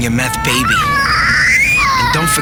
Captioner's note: baby crying